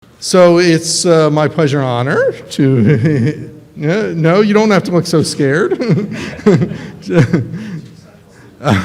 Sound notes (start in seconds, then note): 5.5 laughs